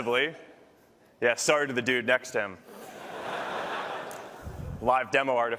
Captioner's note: laughter